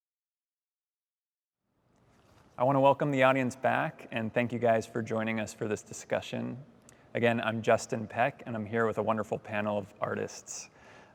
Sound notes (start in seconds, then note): none